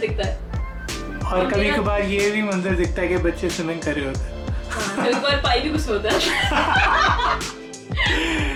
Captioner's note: laugh